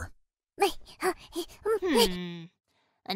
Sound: frantic Babbling

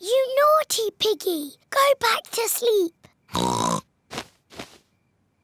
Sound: oinks

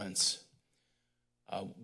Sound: pause

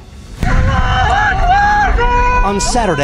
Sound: people screaming in Arabic

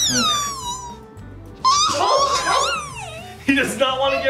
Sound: caterpillar squeals

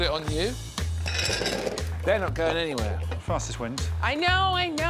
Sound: balls clattering on plate

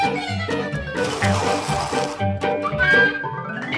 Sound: sliding noise; lively music

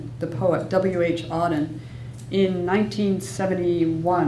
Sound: none

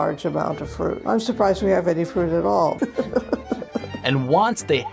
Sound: laughing

